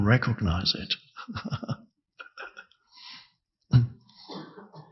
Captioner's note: Eckhart chuckles